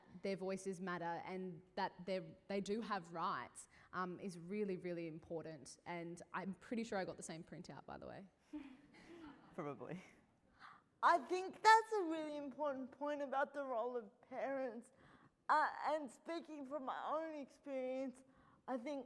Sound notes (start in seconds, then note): 8.6 laughing